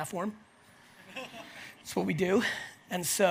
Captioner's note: audience laughs